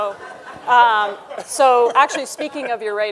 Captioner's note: audience laughing; laughs